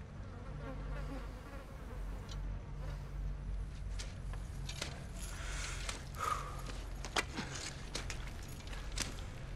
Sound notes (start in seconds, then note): 0.2 flies buzz; 6.1 exhales; 6.1 inhales